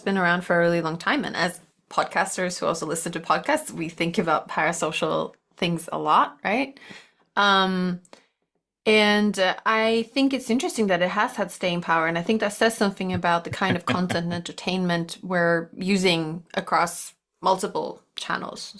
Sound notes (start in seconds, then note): 13.2 laughs